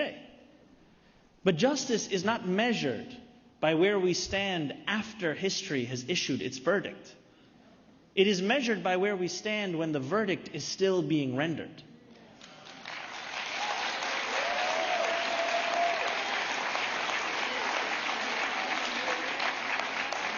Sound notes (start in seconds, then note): 17.5 applause